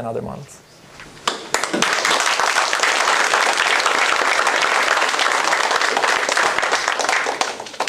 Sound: applause

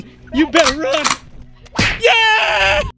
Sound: metal clanking

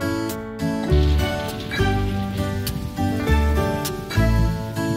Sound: thunder rumbling

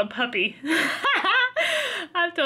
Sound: laughs

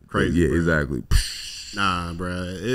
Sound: mimics explosion

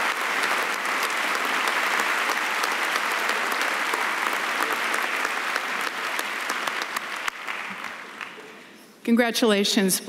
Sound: cheering and applause

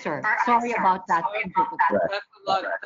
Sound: audio echoes

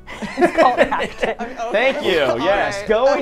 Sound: all laughing

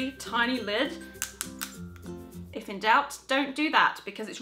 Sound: seal cracking

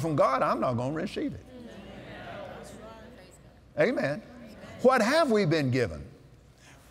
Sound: audience Agrees

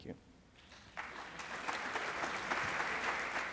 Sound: applause

